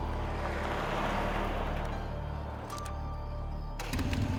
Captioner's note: traffic rumbling